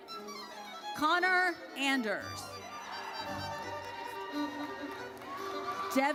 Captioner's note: audience cheers